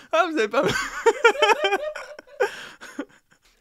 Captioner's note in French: Rires